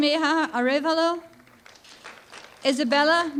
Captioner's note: applause